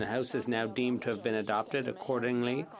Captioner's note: speaking french